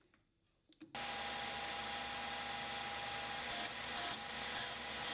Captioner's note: machine whirring